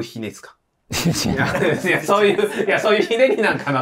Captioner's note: laughing